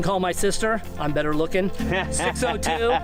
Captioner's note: laughs